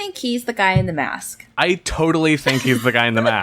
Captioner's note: laughs